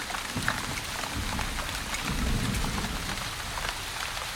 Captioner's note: thunder rumbles